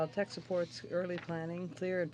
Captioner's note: speaking French